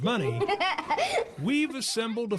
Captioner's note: laughs